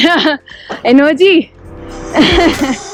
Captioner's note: chuckles